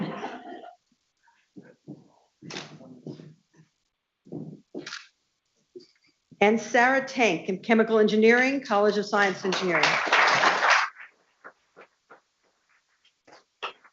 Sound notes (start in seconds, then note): 9.2 people clapping